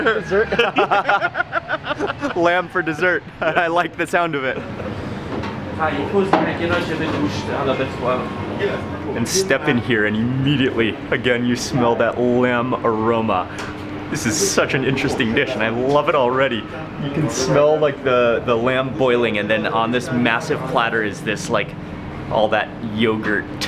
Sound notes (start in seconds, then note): 0.0 laughing; 2.9 chuckles; 6.2 background chattering